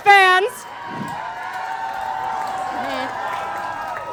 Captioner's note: Croaker fans cheer